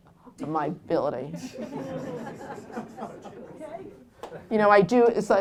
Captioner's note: laughter